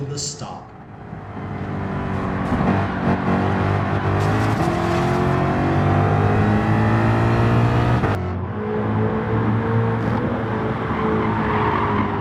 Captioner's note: engines revving, cars noises